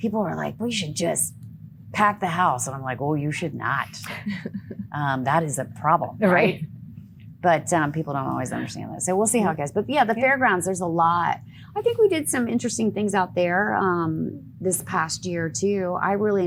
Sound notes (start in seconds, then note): 4.3 laughing